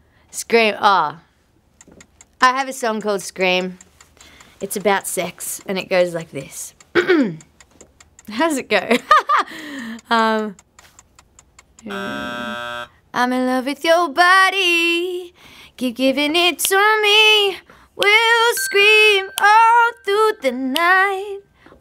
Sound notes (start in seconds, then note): 6.9 clearing throat; 9.1 laughing; 11.9 buzzer sounding